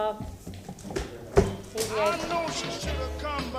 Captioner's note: sounding gavel